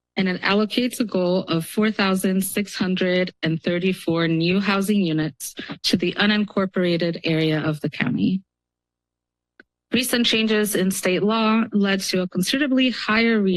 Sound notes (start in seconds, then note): 10.0 pause